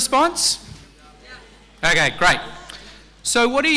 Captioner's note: crowd